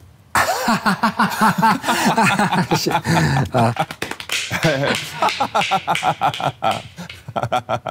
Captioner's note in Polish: śmiech